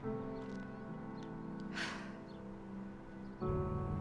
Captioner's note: sighs